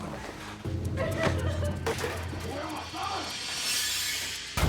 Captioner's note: commotion